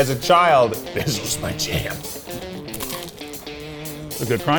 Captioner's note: crunches